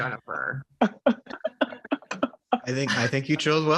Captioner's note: Jake laughing